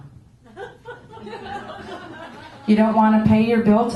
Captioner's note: laughter